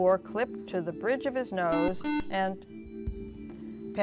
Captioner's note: buzzer